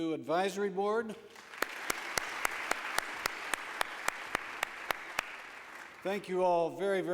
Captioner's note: applause